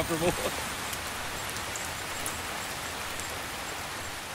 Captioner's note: rain falls; laughs